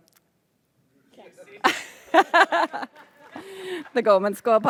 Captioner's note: laughs